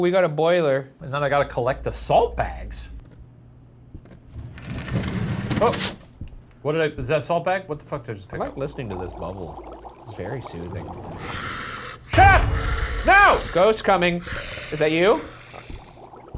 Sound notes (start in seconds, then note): 10.1 cauldron bubbling